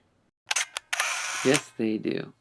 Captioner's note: camera shutter clicks